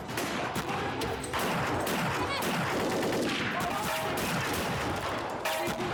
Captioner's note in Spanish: continúa la balacera